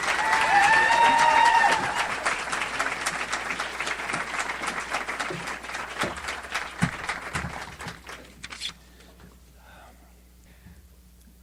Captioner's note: audience applauds